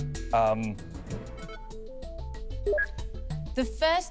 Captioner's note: beeps